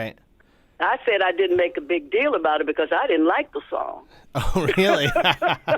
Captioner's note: laughter